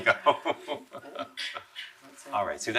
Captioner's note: laughing